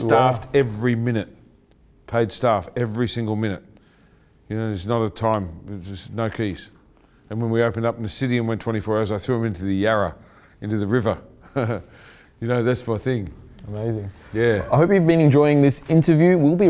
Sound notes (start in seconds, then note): 11.4 chuckling